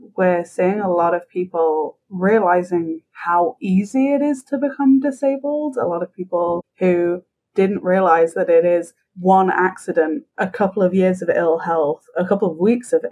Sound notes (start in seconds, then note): none